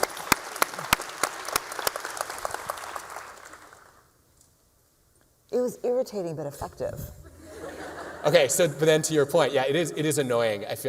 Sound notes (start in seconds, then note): 0.0 applause; 7.3 laughter